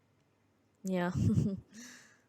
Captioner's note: laughs